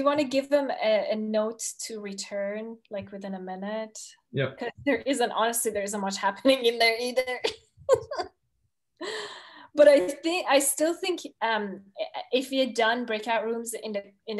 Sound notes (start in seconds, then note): 8.2 laughs